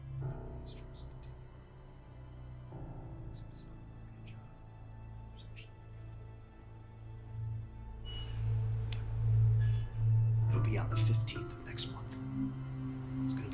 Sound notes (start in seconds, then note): 0.9 Larson speaking faintly